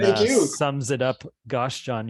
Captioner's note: laughing